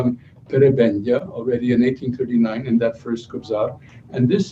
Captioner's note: non-english speech